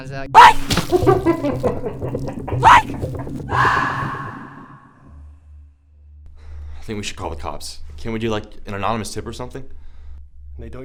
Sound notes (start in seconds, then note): 0.4 hammer squelching; 2.3 clown laughing